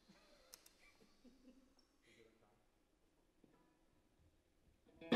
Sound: laughing

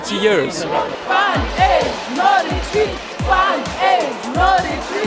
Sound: chanting

